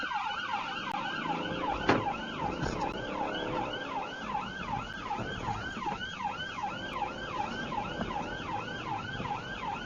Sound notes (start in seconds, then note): 0.0 car door opens and closes; 0.3 engine accelerates; 2.4 police car siren; 5.2 engine accelerates